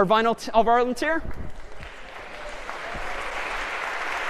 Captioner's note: applause